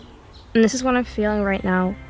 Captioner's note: A mild dream-like sound plays underneath this section